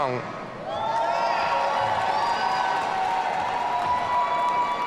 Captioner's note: audience cheering